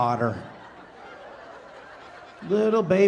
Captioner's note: audience laughing